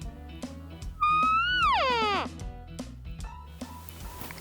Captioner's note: horn bugling